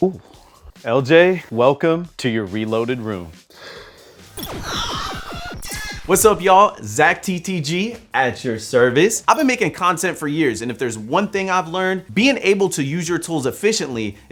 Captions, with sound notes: LJ, welcome to your reloaded room. (gaming guns shooting) What's up, y'all? ZackTTG, at your service. I've been making content for years and if there's one thing I've learned, being able to use your tools efficiently